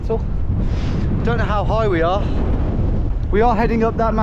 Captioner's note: wind blowing loudly